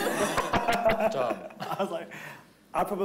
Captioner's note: everyone laughing